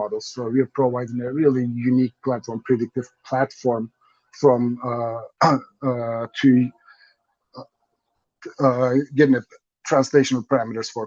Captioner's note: coughs